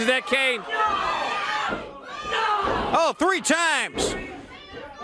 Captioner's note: crowd chatter